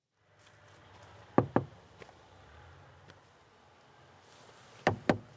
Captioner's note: light knocking